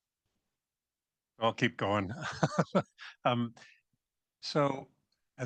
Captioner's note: laughs